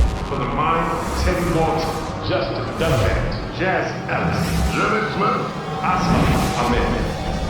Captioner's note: indiscernible chatter